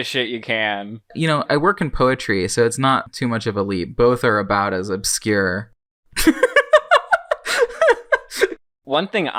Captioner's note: laughs